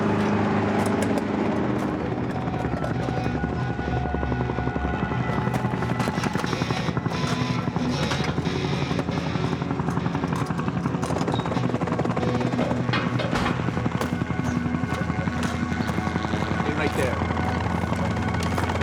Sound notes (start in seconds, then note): 4.1 intense music; 12.1 helicopter blades whirring; 18.6 helicopter blades whirring; 18.6 intense music